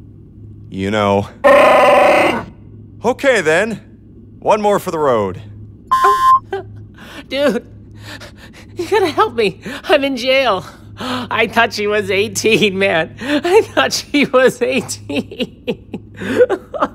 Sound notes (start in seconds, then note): 1.4 wookie growl; 5.9 boop; 15.7 sobs